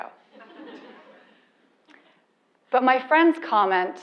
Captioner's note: laugh